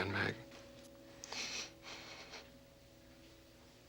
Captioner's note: breath trembling